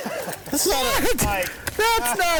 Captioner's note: group Laughs